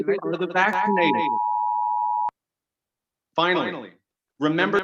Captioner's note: machine beeping